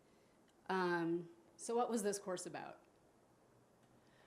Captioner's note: none